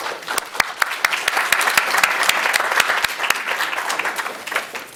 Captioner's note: everyone applauds